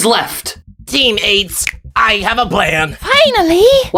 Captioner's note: snap